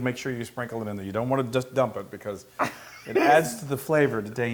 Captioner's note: laugh